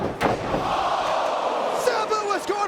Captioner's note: spectators exclaiming